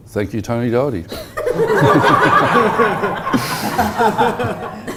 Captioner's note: audience laughs